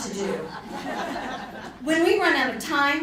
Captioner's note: audience laughing